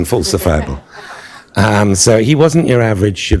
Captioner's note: laughter